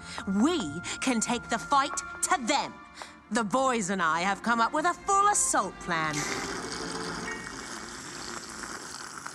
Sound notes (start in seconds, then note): 6.1 slurping